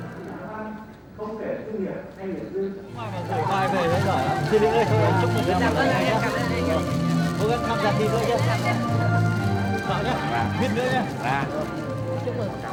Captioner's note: speaking Vietnamese